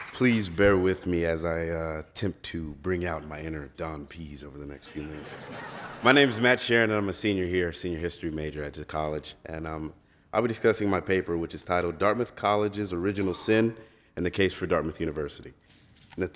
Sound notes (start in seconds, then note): 4.9 laughs